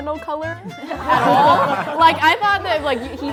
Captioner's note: group laughing